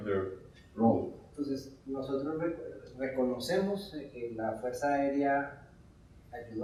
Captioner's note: speaking in Spanish